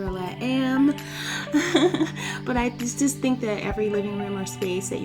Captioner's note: laughs